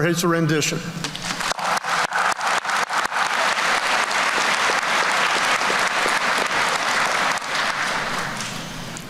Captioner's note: applause